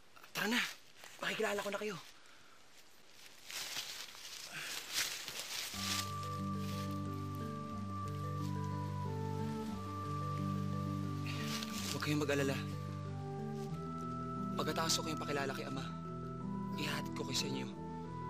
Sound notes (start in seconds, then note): 3.4 leaves rustling; 5.7 mellow music playing